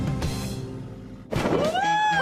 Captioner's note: cheering